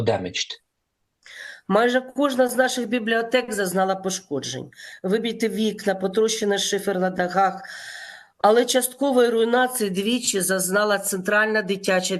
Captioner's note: foreign language